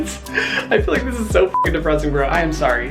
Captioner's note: beep